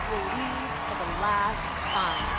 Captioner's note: cheers and applause